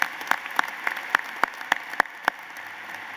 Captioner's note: applause